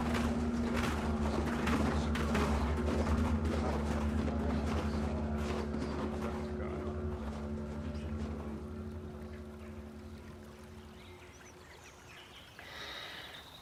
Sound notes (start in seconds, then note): 0.0 footsteps receding; 8.9 water trickling; 11.1 birds chirping